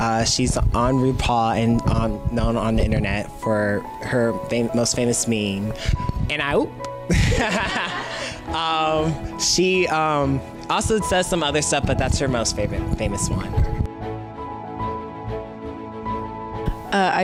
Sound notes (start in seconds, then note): 7.1 laughter; 13.7 gentle music